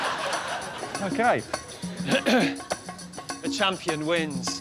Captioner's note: clears throat